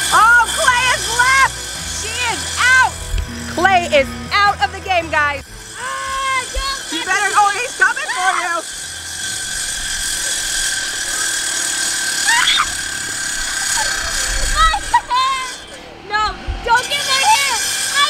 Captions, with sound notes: - Aw, Klai has left. She is out! (buzzer) Klai is out of the game, guys. You better-- Oh, he's coming for you! - My hair! No! Don't get my hair!